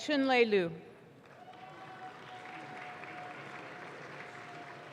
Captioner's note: audience claps